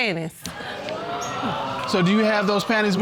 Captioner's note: audience exclaims